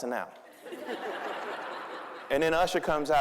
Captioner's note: audience laughing